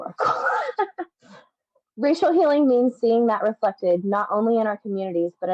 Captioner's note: laughs